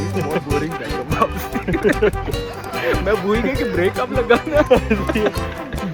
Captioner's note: laughing!